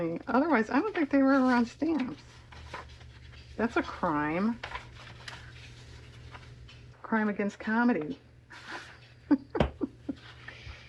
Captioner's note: laughs